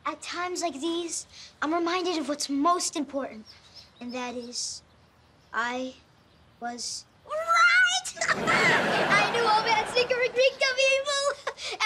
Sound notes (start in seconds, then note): 8.3 chuckles